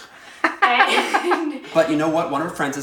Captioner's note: giggling; laughing off-camera